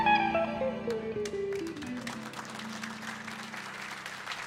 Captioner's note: audience applauding